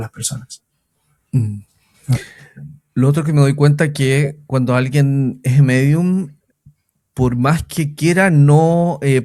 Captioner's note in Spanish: carraspeo